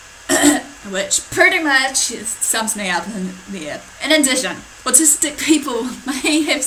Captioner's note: clears her throat